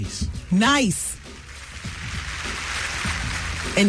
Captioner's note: applause